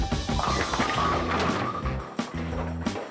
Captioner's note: pins crashing; upbeat music